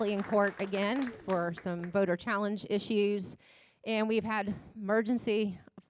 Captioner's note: applause